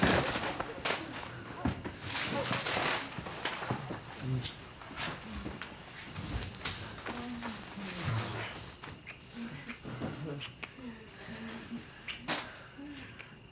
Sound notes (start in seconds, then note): 0.0 papers rustling; 10.2 lips smacking